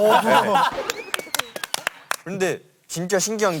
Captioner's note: laughing